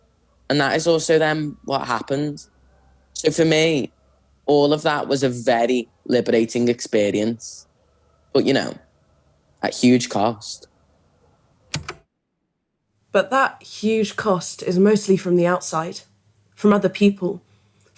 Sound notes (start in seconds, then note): 11.0 the tape recorder stops